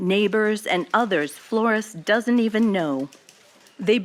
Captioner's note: archival news audio